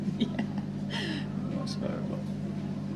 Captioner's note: laughs